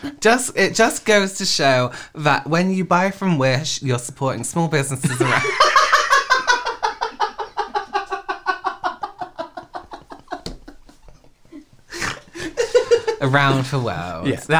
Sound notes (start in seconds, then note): 5.1 hysterical Laughter